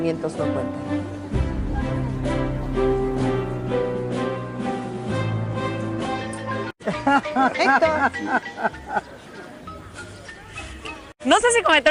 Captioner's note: laughs